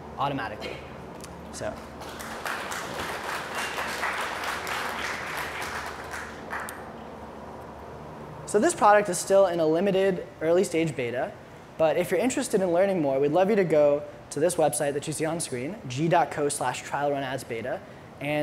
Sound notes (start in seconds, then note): 1.8 applause